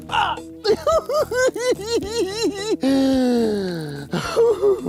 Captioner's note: giggles